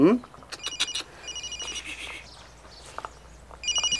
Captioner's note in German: Handy klingelt